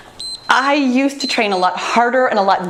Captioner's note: timer beeps